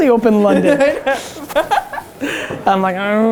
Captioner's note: laughing